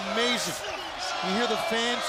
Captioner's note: crowd cheering